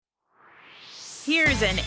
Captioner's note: swoosh